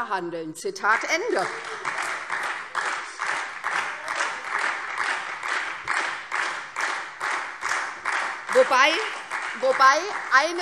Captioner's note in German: Beifall SPD und Freie Demokraten